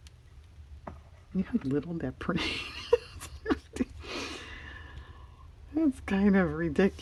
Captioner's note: laughs